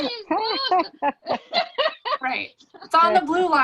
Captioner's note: laughs